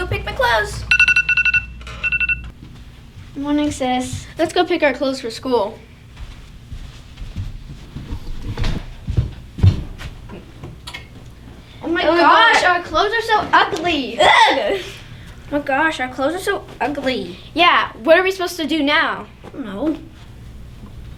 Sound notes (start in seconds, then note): 0.9 alarm